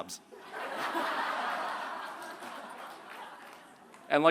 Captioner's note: laughter